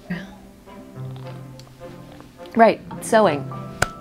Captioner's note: uncomfortable laughter; loud sipping